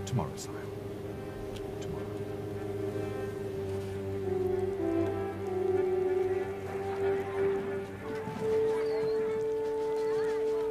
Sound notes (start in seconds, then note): 6.8 chatter